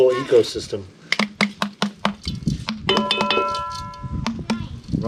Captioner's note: beating intensifies; wind